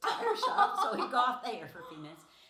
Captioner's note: laughing